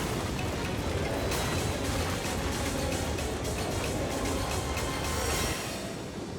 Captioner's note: chaotic dramatic music; snow pounding; edgy dramatic music